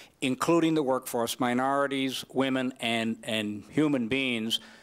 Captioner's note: none